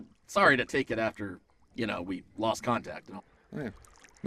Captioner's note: none